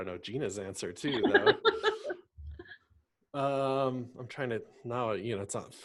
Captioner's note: laughs